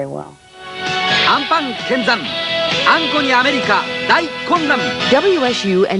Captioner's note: speaking Japanese